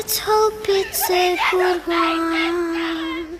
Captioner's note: yelling